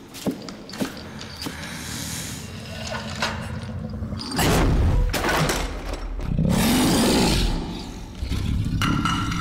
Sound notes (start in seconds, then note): 4.5 whooshing; 6.5 woman growling